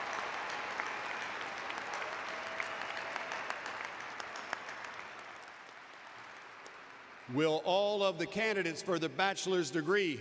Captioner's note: cheers and applause